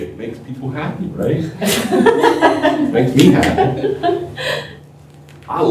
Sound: laughter

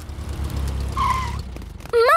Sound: tires screeching

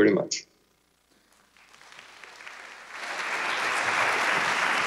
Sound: audience applauds

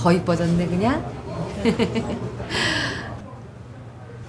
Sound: Hyun-young’s laughter

